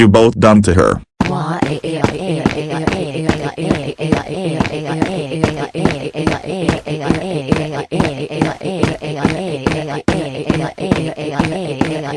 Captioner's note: crying